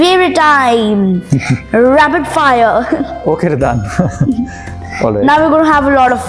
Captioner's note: laugh